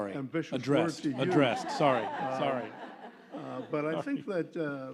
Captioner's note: laughter